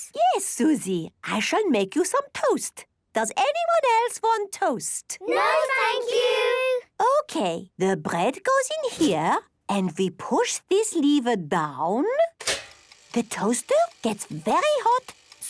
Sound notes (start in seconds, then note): 12.4 clicks